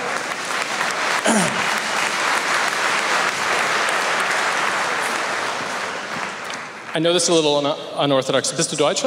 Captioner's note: applause